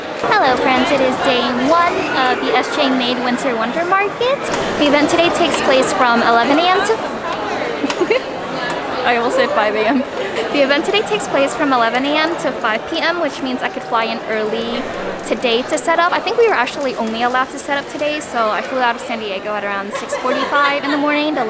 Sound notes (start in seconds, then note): 7.6 laughter